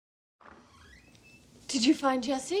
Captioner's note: door opens